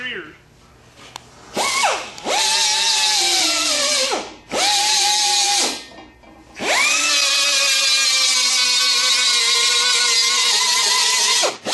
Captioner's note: grinding